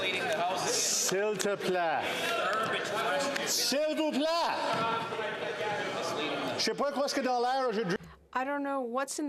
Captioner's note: speaking French